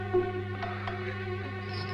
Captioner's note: cup clattering; suspenseful orchestral music